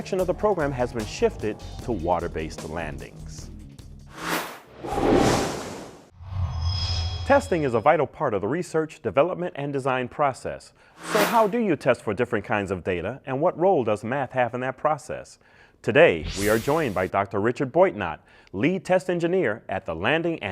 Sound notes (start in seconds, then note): 4.1 sound Effects